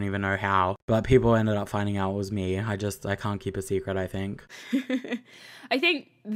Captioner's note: chuckles